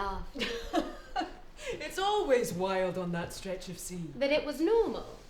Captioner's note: laughing